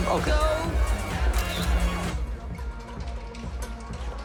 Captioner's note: camera clicks